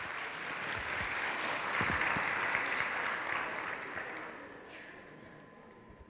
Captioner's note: audience cheering and clapping